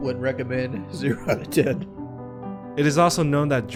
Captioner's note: chuckles